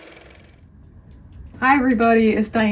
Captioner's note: car motor